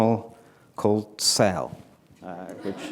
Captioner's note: laughter